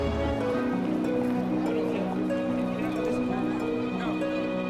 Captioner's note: background talking